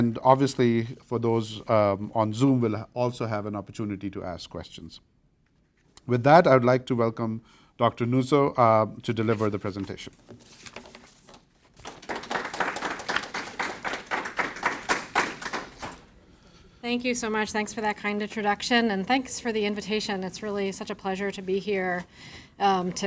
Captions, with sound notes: Obviously, for those on Zoom, will also have an opportunity to ask questions. With that, I would like to welcome Dr. Nuzzo to deliver the presentation. (pages rustling) (audience applauding) - Thank you so much. Thanks for that kind introduction and thanks for the invitation. It's really such a pleasure to be here,